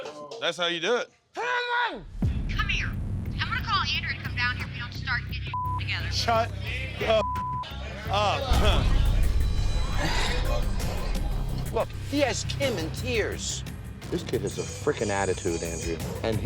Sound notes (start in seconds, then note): 5.4 beep; 9.0 beep; 10.0 sighing